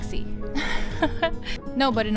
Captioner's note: giggles